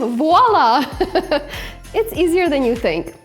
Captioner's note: laughs